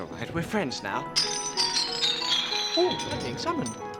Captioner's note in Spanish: música suave; traqueteo de la cadena